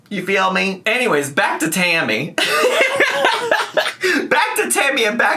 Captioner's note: laughing